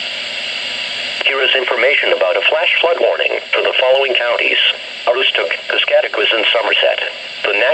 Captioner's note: on weather radio